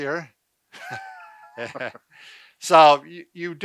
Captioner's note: both laugh